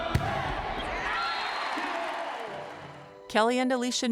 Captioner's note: crowd cheerining